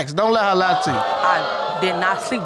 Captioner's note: audience exclaiming